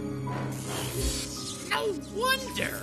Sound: electricity crackles

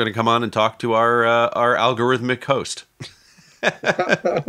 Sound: laughing

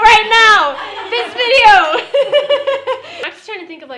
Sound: laughing

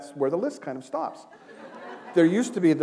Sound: laughter

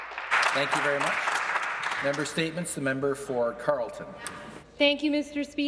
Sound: some Applause

